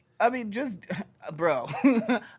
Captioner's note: laughs